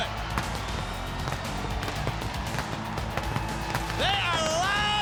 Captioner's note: crowd cheering